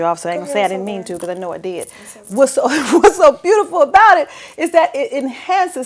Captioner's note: laughter